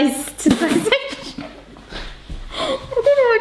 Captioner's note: both chuckle